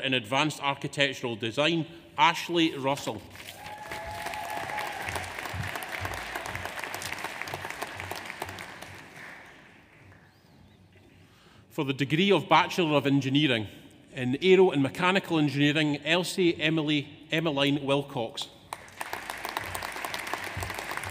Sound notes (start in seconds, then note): 3.6 audience cheers; 3.6 audience applauds; 18.7 audience applauds